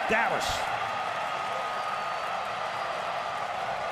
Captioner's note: cheering